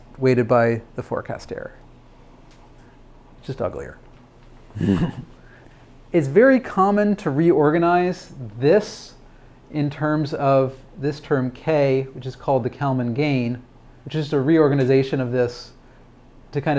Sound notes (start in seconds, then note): 4.7 laughs